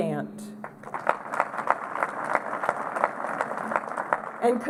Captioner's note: applause